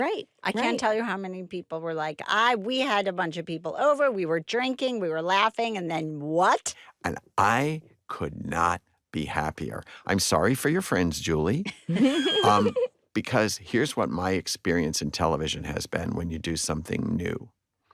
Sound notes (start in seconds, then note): 11.9 all laugh